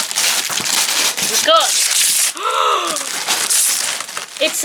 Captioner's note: gasp